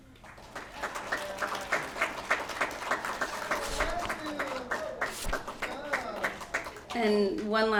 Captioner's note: applause